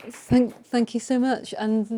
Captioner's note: audience applauding